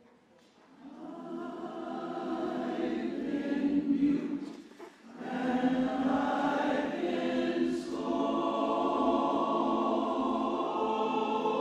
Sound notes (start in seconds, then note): 1.3 chorus singing; 1.3 hands clapping